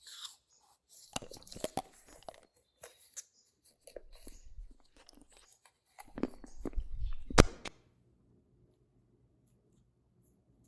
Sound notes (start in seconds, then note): 0.6 teeth crunching; 6.9 static flipping